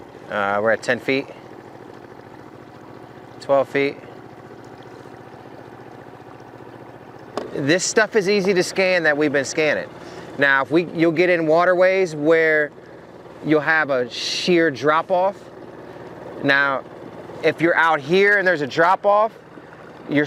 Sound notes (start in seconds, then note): 4.6 motor rumbling; 4.6 water sloshing